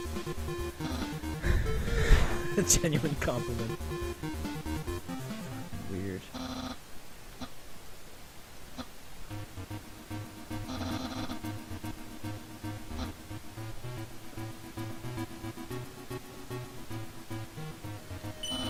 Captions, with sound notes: (laughing) "A genuine compliment" Weird